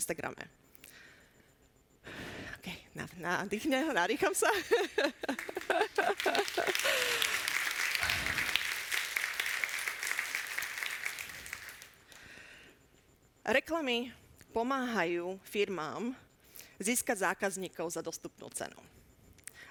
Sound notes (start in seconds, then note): 5.2 audience applauding